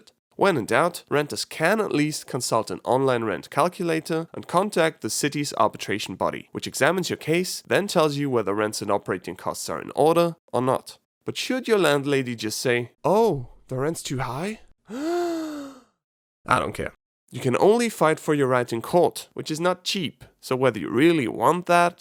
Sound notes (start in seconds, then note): 14.8 gasp